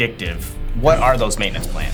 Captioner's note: text whooshing